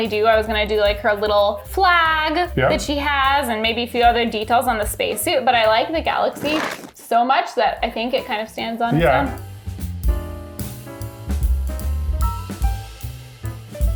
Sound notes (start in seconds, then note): 6.1 crunch sound; 9.8 upbeat jazzy music continues